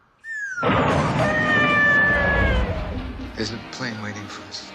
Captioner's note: scream